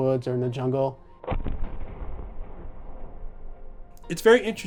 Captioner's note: thunderous booming